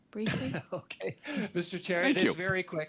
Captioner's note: speaking french